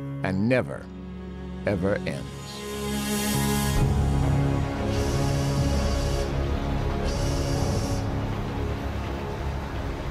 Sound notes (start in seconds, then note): 7.0 <i> train whistle blowing</i>